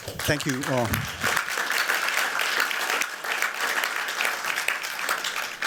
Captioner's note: applause